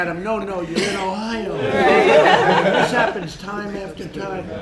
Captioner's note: laughter